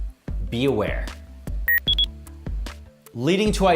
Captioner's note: electronic beep